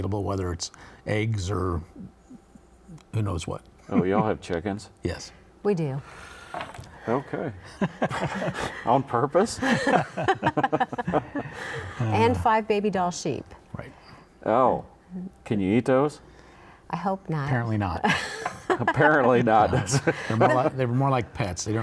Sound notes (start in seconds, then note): 9.3 all laughing